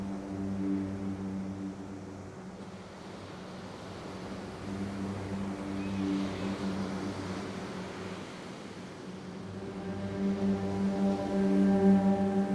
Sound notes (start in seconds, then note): 6.3 tense music continues; 6.3 waves crashing